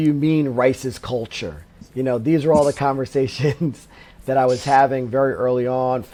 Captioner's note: laughs